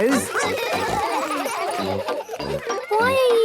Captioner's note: children giggling